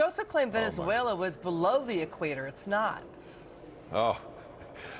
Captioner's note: laughter